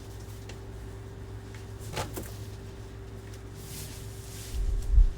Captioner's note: wig rustling continues